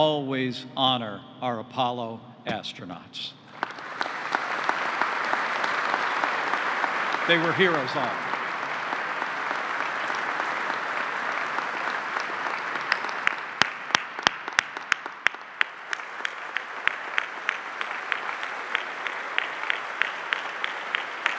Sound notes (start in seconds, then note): 9.2 applause